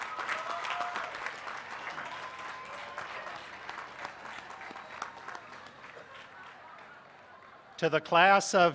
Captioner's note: cheers